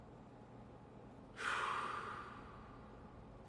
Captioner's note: sighs